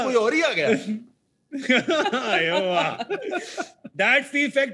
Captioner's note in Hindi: हँसते हुए